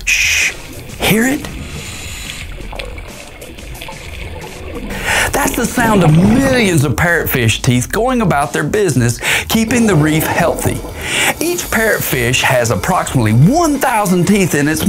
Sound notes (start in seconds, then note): 2.5 parrotfish jaws chomping; 2.5 water gurgling